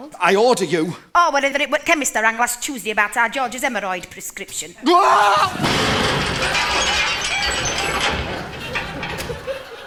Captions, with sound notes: I order you. or whether it were t’ chemist I rang last Tuesday about our George’s haemorrhoid prescription. Wooah-argh! [large crash]